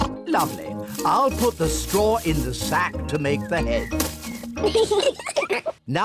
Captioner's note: oinks; both giggle